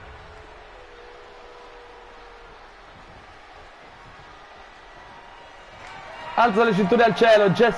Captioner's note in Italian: Applauso